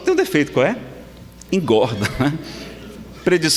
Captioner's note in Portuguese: risadas